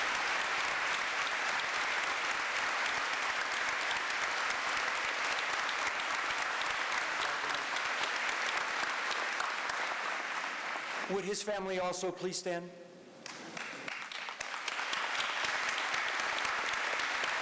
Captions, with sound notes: Would his family also please stand? [APPLAUSE]